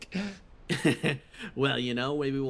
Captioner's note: Etete Laugh